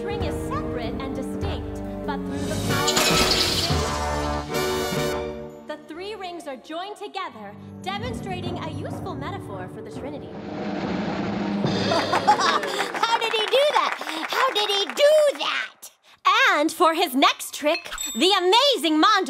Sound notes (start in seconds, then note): 3.4 squeaking; 12.2 applause